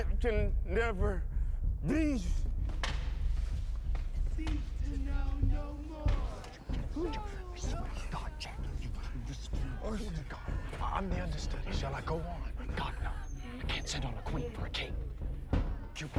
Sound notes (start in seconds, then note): 6.7 whispering